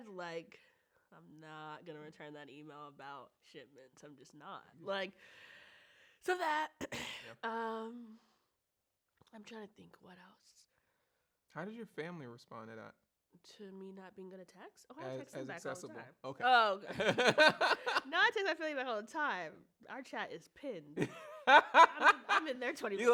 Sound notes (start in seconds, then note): 7.5 clears throat; 21.0 laughs